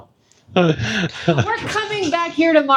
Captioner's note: laughing